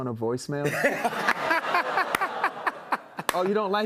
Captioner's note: laughter